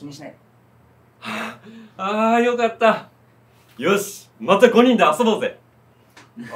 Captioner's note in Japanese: 笑う